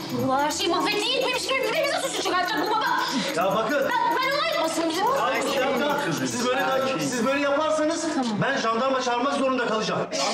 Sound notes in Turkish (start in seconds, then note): 4.4 Bağırıyor